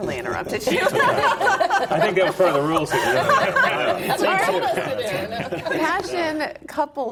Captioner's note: laughs